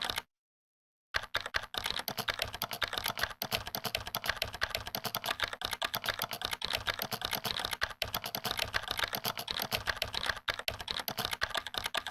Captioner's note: frantic typing